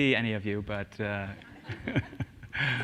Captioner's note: laughter